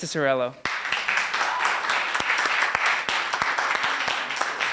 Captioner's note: applause